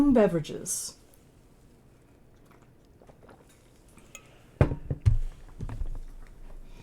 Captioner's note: sounds of water bottles hitting desks